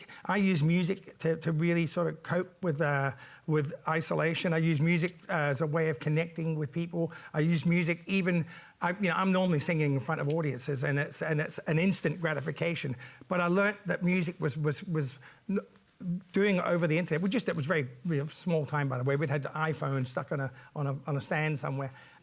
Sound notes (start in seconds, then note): none